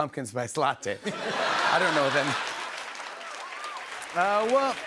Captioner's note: laughter